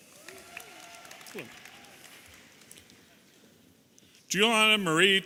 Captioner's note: audience applauding and cheering